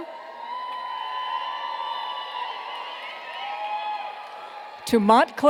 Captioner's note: cheers and applause